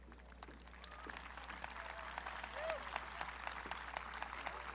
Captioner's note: audience clapping